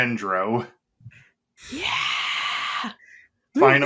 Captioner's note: bad attempt at hype noise bc we so tired by now lol